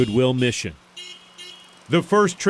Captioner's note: honking